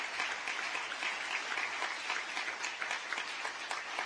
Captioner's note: applause